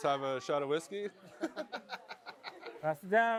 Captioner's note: laughs